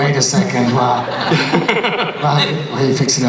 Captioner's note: laughter